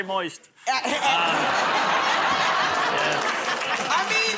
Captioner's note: laughter